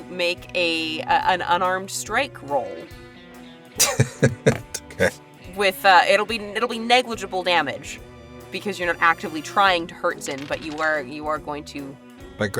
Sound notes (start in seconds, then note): 3.8 chuckles